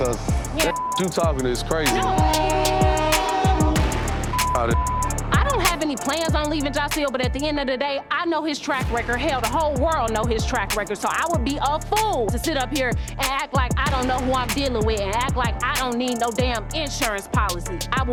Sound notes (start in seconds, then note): 1.7 train whistle blows